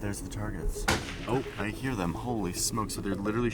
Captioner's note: gun fires